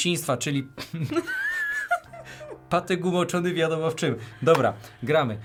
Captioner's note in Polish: śmiech